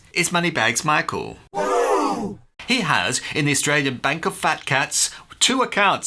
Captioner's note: crowd exclaims, "Whoo!"